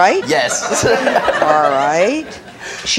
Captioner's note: audience laughing